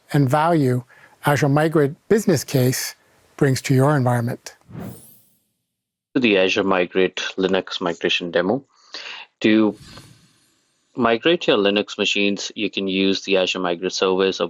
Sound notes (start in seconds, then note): 4.6 graphics whooshing